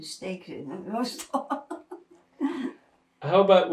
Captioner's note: laughing